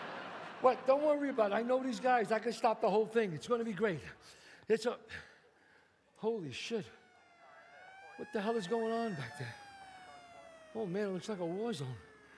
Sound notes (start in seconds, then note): 0.0 audience laughs; 6.7 siren wails